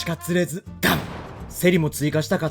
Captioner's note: thud